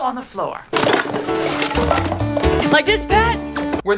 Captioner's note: garbage rattling